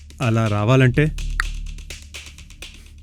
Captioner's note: tongue clicks